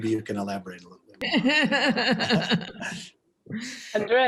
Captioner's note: laughter